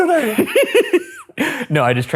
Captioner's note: laughing